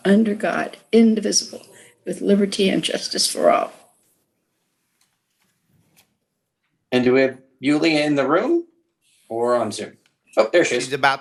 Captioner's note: reciting the pledge of allegiance